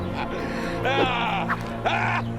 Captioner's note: wooshing